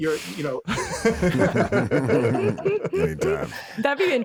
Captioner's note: all laughing